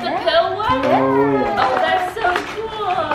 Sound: murmuring

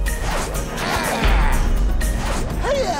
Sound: grunting

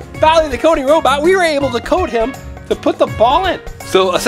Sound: none

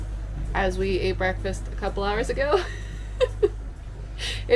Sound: laughs

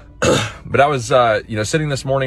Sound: clears throat

